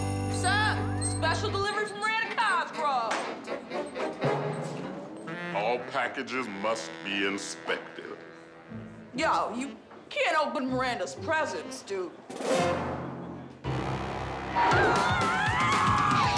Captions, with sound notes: What's up? Special delivery for Miranda Cosgrove. All packages must be inspected. Yo, you can't open Miranda's presents, dude. [screaming]